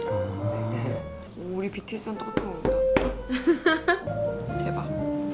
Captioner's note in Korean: 웃음